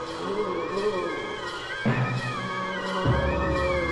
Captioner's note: haunted moaning